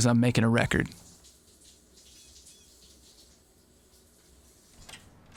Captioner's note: water splashing